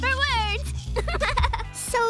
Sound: laughing

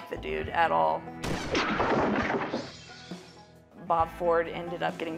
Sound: gunshot firing

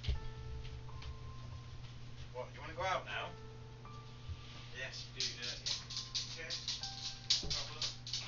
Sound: dog claws rattling on kitchen floor

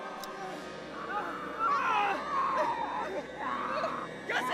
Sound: yelling; screaming

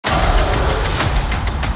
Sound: roars

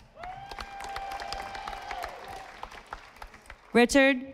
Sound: audience applauding

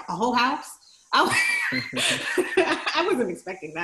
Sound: both laughs

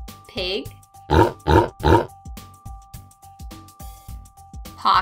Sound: pig grunting

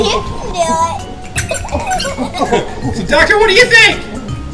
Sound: laughing

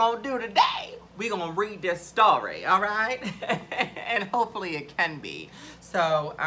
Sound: laughs

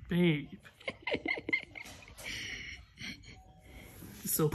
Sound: giggling

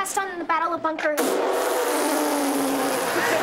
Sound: razzing; laughing

